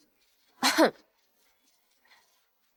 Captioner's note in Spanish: Ejem